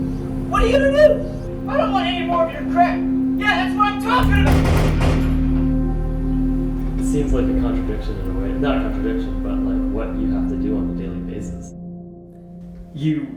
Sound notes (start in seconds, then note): 4.2 shots